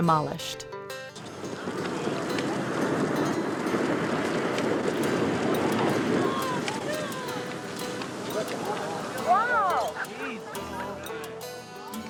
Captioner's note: demolition sounds and crowd reaction